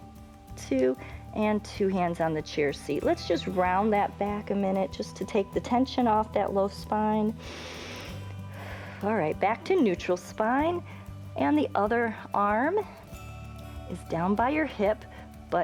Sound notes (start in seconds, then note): 7.4 inhales and exhales